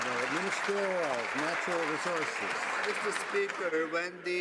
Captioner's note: some Applause